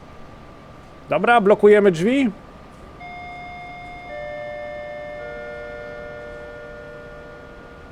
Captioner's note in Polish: dzwonek